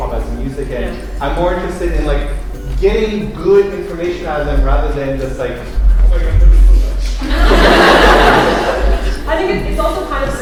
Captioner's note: laughter